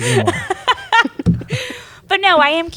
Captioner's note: laughter